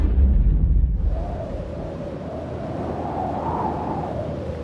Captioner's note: ground rumbles; wind whooshing